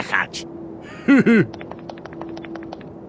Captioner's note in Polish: śmiech Spejsona